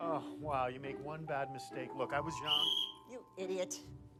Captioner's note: whistle blows